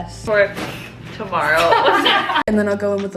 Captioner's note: laughing